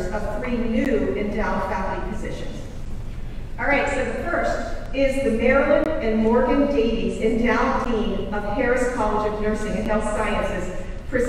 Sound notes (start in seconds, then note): none